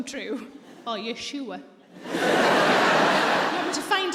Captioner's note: audience laughs